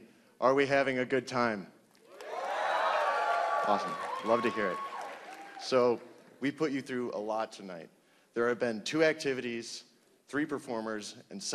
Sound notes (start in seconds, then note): 2.1 applause